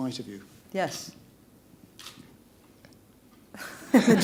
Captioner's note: laughter